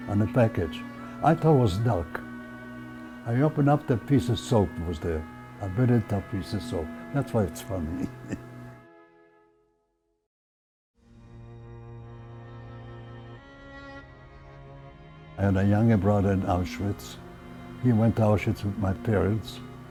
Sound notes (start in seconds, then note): 7.8 chuckling; 11.0 soft dramatic music